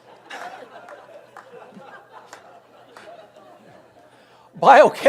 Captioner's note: audience laughs